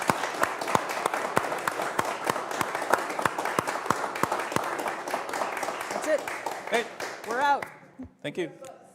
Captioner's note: applause